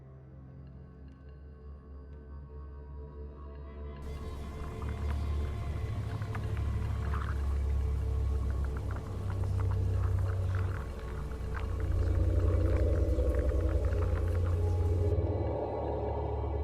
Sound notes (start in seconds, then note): 0.2 tense scary music; 4.3 light sizzling; 12.6 eerie haunting music